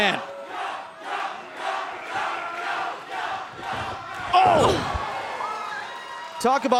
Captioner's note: fans chanting